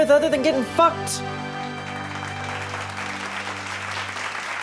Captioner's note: audience claps